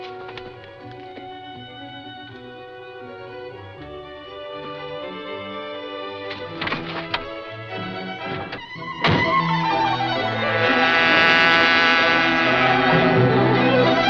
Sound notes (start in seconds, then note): 9.0 door slams; 11.1 frenetic music